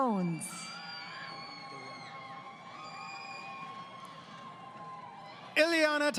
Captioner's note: crowd Cheering